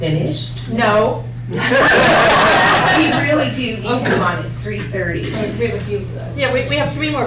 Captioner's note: laughter